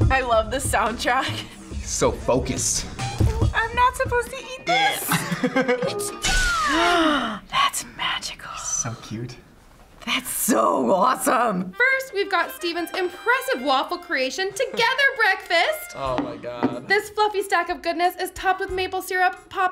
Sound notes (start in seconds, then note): 4.7 laughs; 6.6 gasps